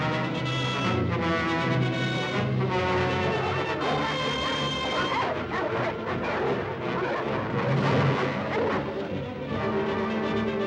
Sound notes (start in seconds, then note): 3.2 suspenseful music; 3.9 dogs barking; 9.3 suspenseful music